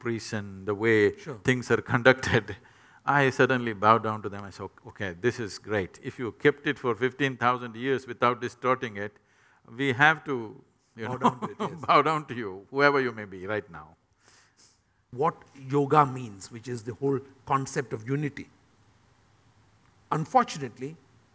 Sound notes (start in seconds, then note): 11.0 laughs